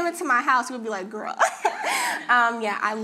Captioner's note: laughing